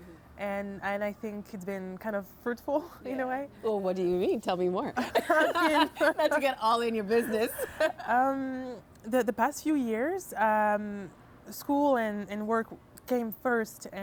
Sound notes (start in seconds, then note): 5.0 both laughing